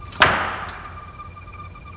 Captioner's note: foot stomps